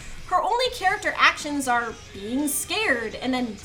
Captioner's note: none